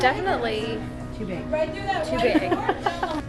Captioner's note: laughing